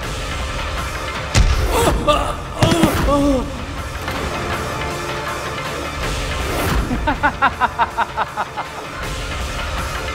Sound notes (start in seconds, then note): 2.6 thudding; 6.8 laughs